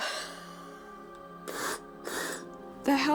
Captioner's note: wheezes; puffs